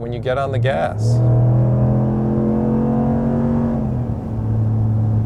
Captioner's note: car engine roaring